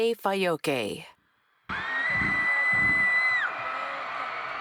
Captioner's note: cheers